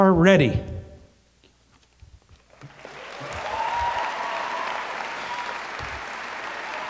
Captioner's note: applause